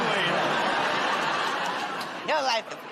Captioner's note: laughter